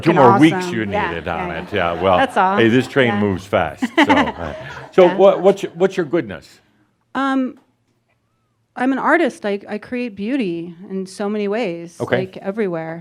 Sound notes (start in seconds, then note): 7.0 she chuckles